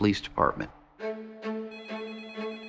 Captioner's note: phone ringing